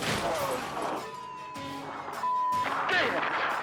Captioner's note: dramatic music; sirens blaring; beep